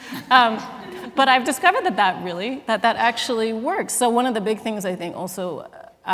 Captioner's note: laughter